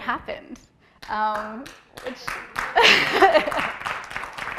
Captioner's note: applause